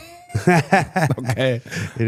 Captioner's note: Cody laughs; Gunther laughs